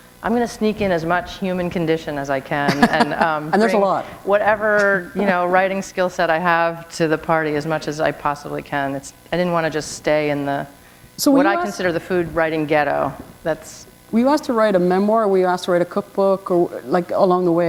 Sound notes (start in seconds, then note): 2.7 chuckle